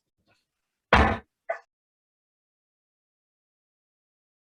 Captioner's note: banging of the gavel